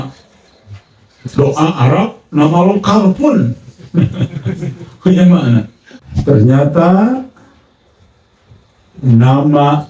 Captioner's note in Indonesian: tertawa